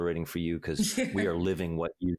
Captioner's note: laughs